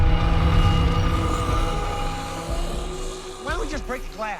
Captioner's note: dramatic chord; snarling